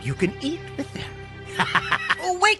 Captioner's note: laughter